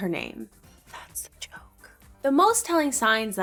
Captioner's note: whispering